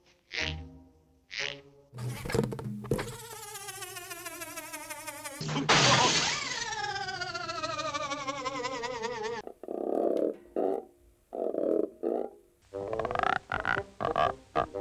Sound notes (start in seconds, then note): 2.8 winding-down sound; 9.3 croaking; 12.6 croaking musically